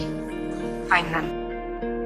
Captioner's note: voiceover